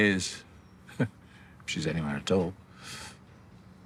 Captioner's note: he inhales